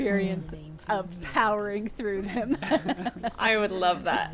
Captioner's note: laughs